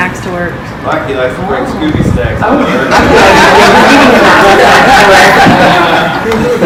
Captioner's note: laughter